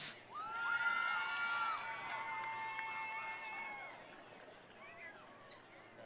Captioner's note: attendees cheering; attendees applauding